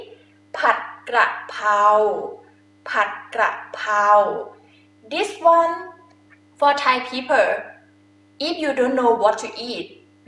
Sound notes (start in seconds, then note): 0.0 talking in foreign language